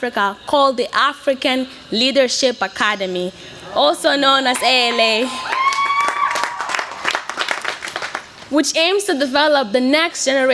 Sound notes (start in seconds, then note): 4.5 light cheers and applause